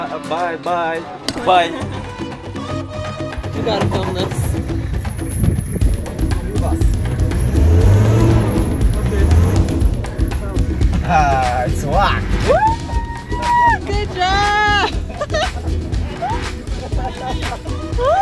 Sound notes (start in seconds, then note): 2.4 upbeat music; 6.6 engine revving; 14.6 people laughing